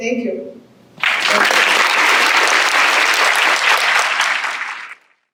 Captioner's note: audience claps